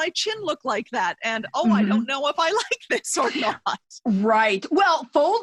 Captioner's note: laughing